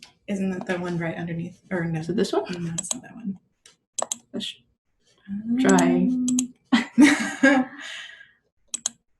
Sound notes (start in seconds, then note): 6.7 laughter